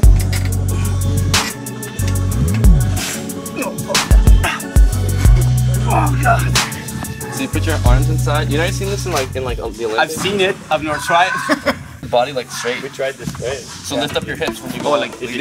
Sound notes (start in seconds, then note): 0.2 techno music; 10.8 laughing